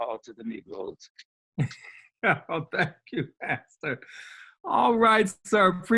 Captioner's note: laughs